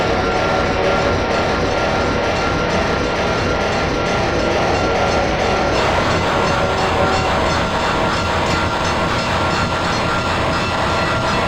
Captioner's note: railroad crossing ringing